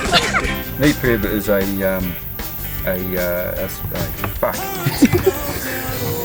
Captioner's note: laughs